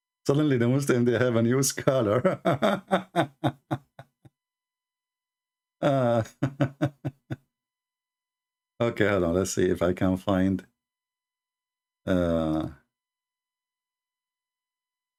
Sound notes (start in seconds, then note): 0.0 Ketawa; 5.8 Ketawa